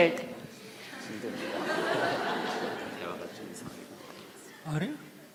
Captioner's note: audience Laughter